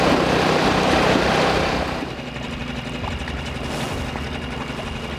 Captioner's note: engine rumbling